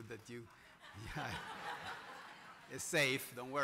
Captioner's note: laughter